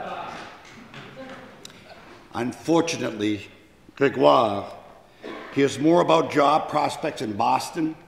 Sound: speaking foreign language

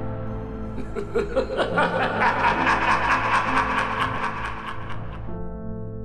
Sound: evil laughter

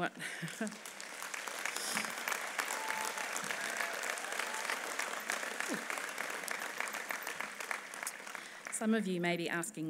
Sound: clapping

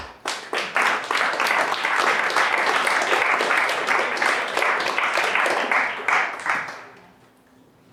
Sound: applause

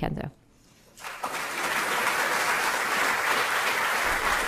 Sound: audience clapping

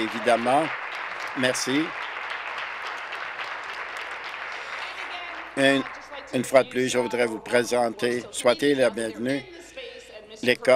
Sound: applause

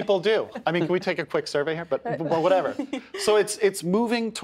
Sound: laughter

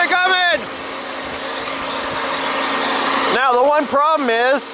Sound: machine engine roaring

